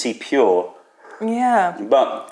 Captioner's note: sips tea